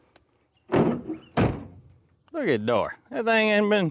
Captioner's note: door Slamming